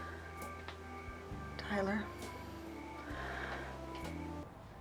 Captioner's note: sighs